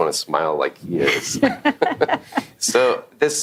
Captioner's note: laughing